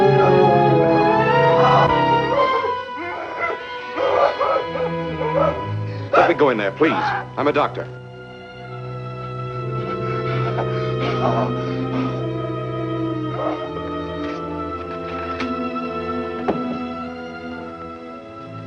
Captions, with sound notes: [tense instrumental music] [gasping] - Let me go in there, please. I'm a doctor. [tense instrumental music] [gasping]